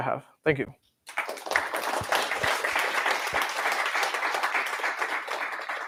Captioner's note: applause